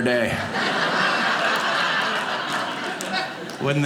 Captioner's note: audience laughing